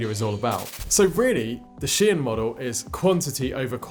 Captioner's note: static fizzles